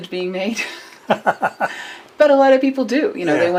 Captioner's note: laughter